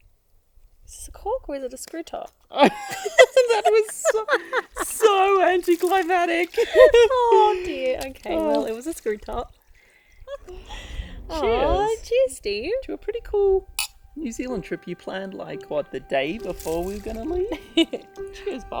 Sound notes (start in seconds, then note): 2.6 both laughing; 6.4 giggling; 13.8 glasses clink; 17.5 laughs